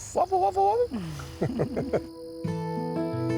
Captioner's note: laughing; slow bluegrass music